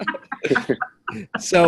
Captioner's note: all laughing